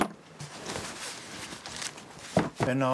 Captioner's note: rusting